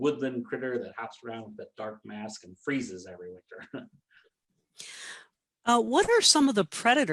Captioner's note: chuckles